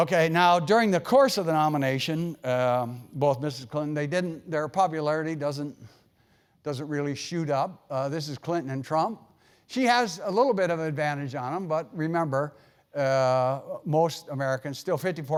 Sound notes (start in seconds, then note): none